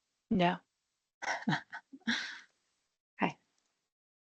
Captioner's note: laughing